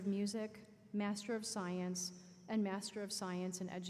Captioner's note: none